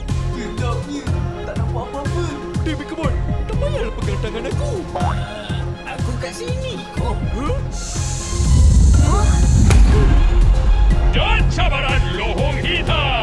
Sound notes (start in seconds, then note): 8.5 low growling